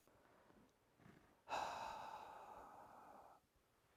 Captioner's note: exhales